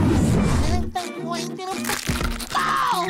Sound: cracking

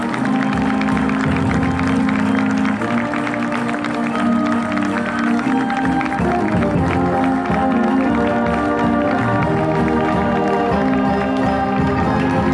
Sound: applause

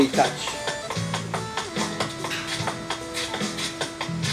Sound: footsteps

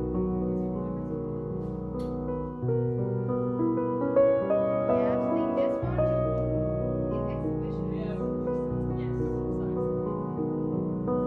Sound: romantic Piano Music; soft background chatter

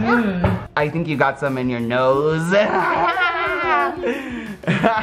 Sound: laughing

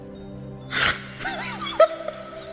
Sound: more laughing

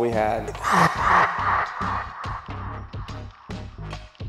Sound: ominous laughter

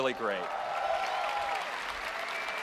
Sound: applause

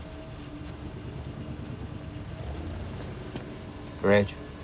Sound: engine rumbling

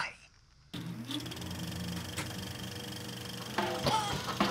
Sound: projector clicks; jazz music; Franky and Rodney laugh

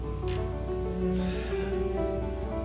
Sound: sighs

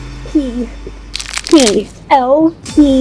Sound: wood floor being torn up

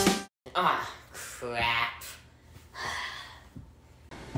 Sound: sighs

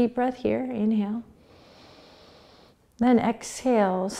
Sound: inhaling

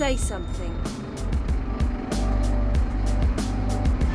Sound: bus bell dings

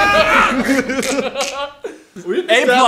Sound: dying noises?

